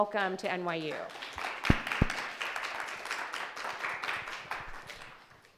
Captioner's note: audience applauding